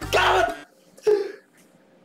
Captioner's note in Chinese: 倒抽一口氣